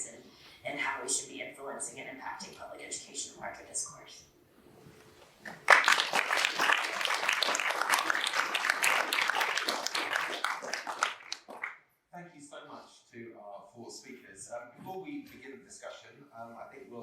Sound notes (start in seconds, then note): 12.1 applause